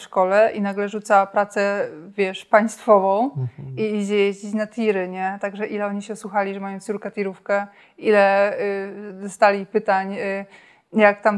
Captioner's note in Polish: śmiech